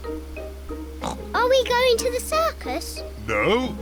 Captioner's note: oinks